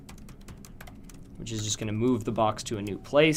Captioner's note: typing Noises